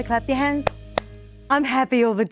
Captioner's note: claps hands